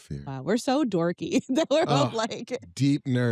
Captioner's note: laughs